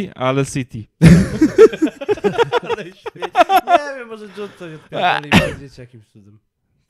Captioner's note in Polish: śmiech